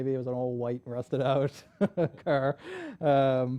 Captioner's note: laughs